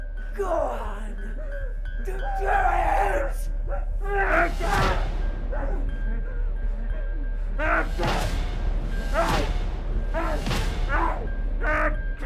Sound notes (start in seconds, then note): 3.7 Skull-Faced Assailant shouts; 7.9 thudding strikes